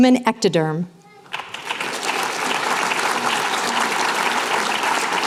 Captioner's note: applause